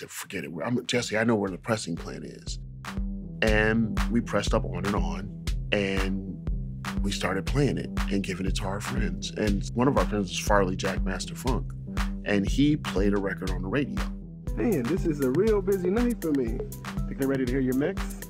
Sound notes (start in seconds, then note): 14.5 soundbite of archived recording